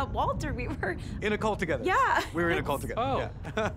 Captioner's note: chuckles